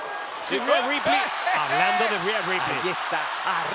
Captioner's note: laugh